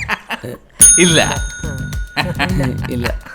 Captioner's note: rings office bell